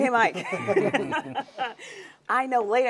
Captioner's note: laughing